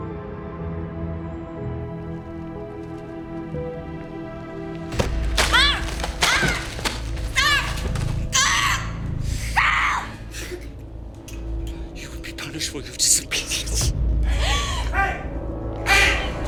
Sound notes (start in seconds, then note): 5.5 Alejandra shouts; 8.3 Alejandra screams